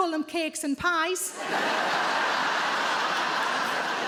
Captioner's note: audience laughs